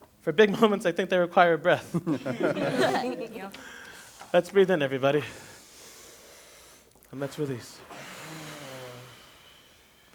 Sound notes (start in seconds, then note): 1.8 laughter; 5.2 inhale; 8.0 exhale